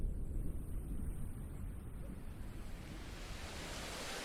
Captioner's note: waves crashing